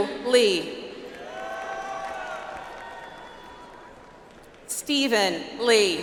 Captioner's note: audience applauds